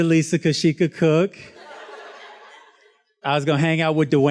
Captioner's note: student laughs